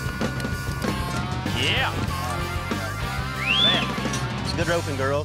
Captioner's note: gate opens, hoof beats; whistling